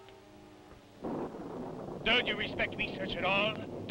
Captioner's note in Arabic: هدير الرعد